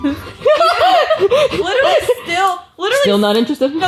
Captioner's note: laughs